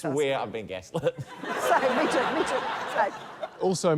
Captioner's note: laughter